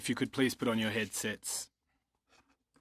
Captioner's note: speaking french